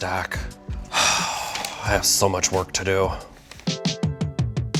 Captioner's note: exhaling loudly; relaxing rhythmic music